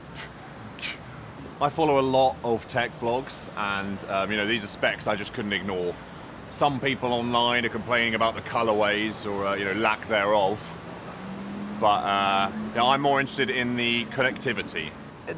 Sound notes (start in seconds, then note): 0.7 scoffs